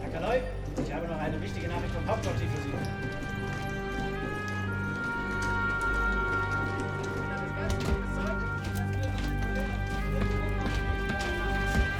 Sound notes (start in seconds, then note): 0.1 man speaking in foreign language; 7.4 men chattering